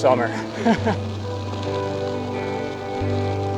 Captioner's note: laughs